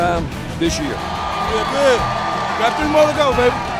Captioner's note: crowd roaring